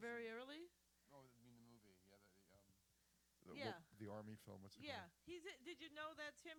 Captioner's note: partially off mic